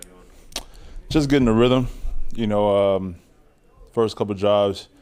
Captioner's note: sucks teeth